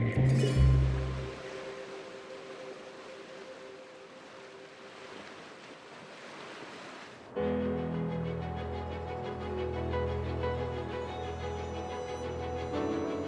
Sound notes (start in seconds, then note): 1.6 water lapping; 7.3 lively music